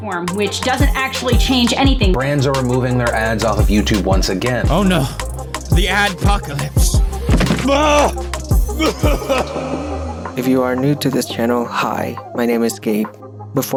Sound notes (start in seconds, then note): 8.6 struggling noise; 8.6 coughs with reverb